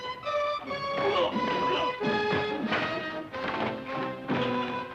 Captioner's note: dramatic music; men grunting